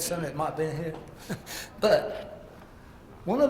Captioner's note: laugh